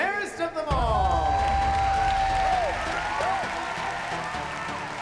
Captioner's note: cheers; applause and cheers